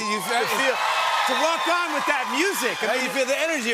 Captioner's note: cheers and applause